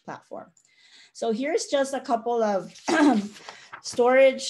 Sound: clears throat

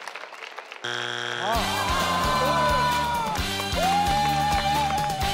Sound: failure buzzer buzzes

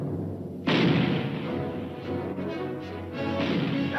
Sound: dramatic music; gun firing

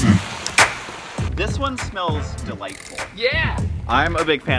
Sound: male Voice

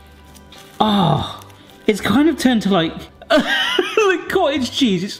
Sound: laughs

